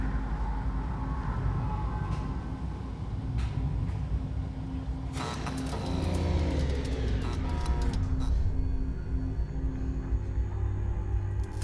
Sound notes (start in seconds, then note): 5.2 machines power down; 5.3 electricity crackling